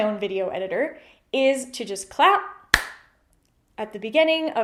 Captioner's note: claps